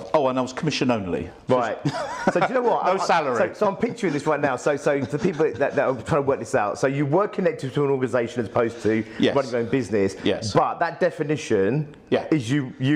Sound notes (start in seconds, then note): 1.7 laughs